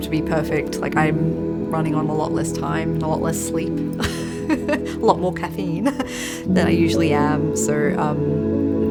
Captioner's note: laughs